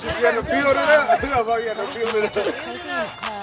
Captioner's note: laughter